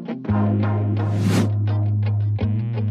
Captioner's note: whooshing; gentle upbeat music